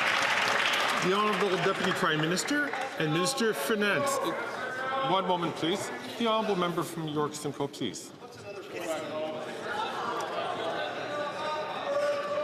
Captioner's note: some Applause